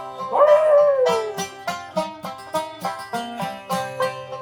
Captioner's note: barks like dog; instrumental music